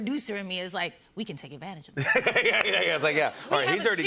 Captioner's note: laughing